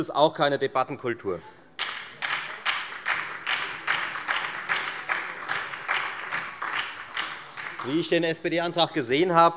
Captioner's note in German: Beifall bei der FDP und der SPD